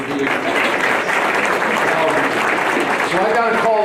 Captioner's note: applause